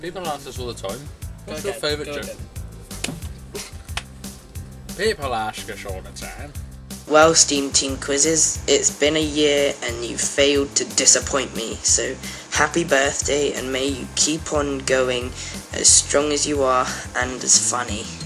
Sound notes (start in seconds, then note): 5.0 with yorkshire accent